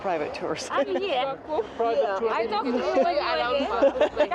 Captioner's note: overlapping chatter